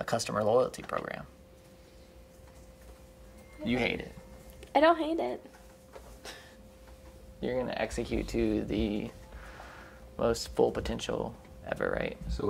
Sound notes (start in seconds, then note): 6.4 laughing